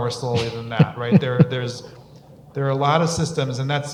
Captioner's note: laughs